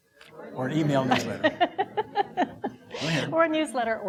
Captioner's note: laughing